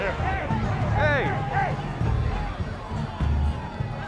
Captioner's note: others shouting